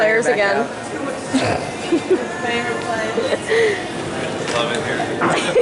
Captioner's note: laughter